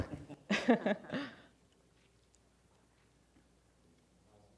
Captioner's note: laughing